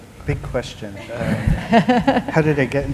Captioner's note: laughter